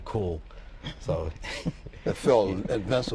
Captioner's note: laughter